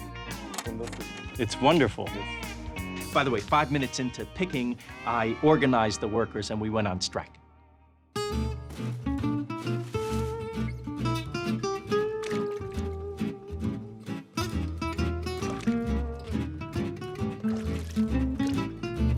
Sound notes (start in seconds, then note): 11.5 splashing